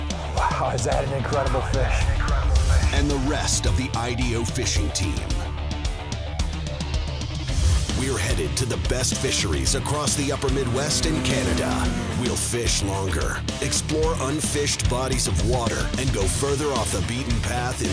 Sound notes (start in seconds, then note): 3.2 voiceover